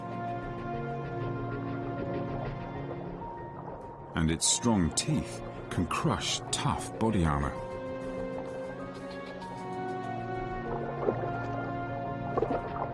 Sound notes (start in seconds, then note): 4.4 dramatic music; 4.4 water gurgling